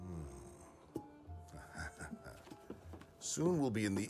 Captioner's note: he chuckles